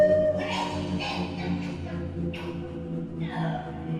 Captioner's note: Susan choking